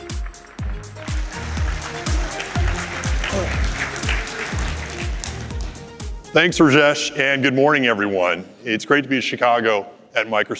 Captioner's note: applause